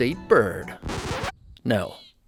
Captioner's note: record scratching